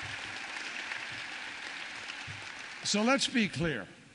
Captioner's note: applause